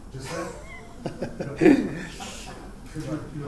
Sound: laughing

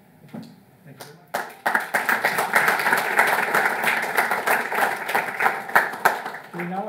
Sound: audience applauding

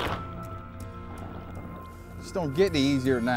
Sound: gunshot

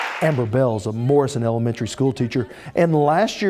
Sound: cheers

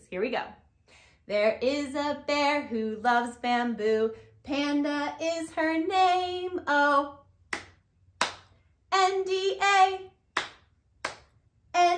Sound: clap, clap

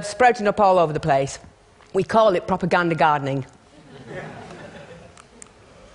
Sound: laughter

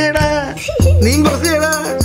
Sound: kids laugh

